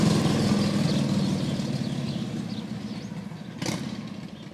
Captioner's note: sound of a motorbike